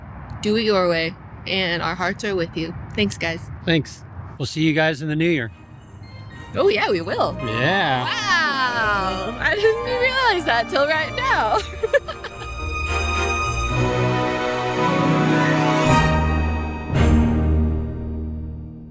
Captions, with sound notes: do it your way and our hearts are with you. Thanks guys. Thanks. We'll see you guys in the new year. Oh yeah, we will. Yeah. Wow. I didn't realize that until right now. (laughing) (dramatic music)